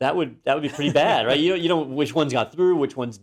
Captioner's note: laugh